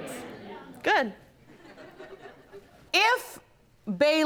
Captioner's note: scattered laughter